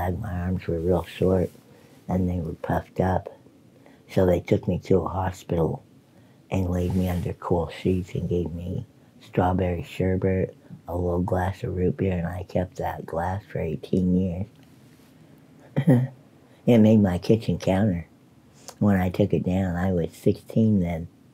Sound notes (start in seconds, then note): 15.6 light chuckle